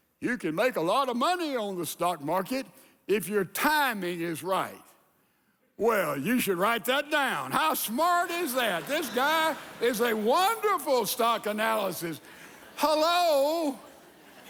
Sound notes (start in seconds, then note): 8.3 congregation laughing